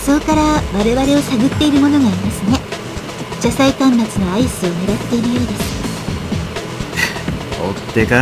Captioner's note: rain